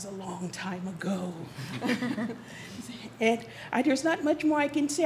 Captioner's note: audience laughs